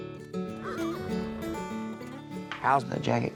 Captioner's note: horse neighs